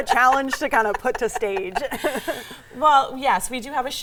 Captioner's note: laughing